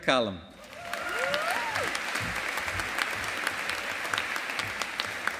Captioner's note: audience applauding